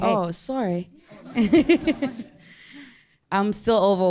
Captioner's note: audience chuckling